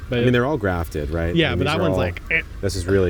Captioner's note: creaks